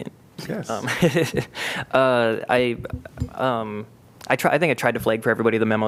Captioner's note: laughter